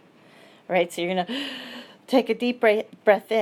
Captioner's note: gasps